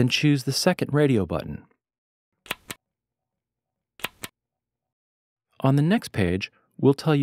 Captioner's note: click